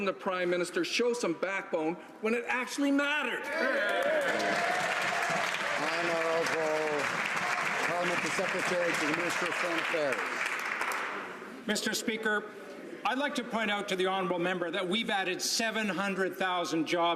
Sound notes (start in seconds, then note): 6.3 some Applause